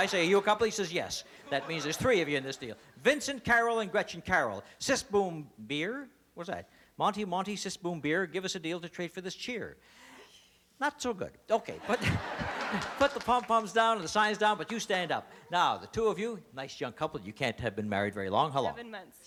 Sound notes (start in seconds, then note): 9.3 laughter